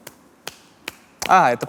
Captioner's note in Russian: хлопки